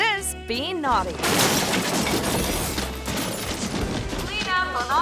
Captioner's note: groceries clattering